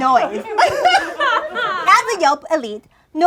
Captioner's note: laughing